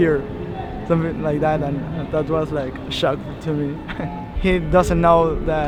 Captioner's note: chuckles